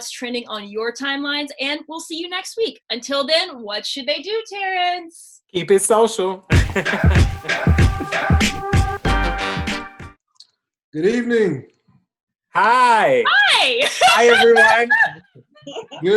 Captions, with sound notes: on your timelines, and we'll see you next week. Until then, what should they do, Terrence? Keep it social. (chuckles) Good evening. -Hi. -Hi. (laughs) Hi, everyone.